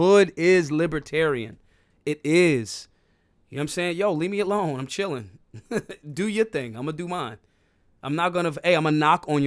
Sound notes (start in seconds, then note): 5.5 laughs